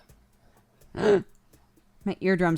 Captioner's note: gasps; cry